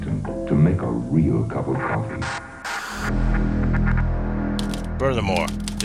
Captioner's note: static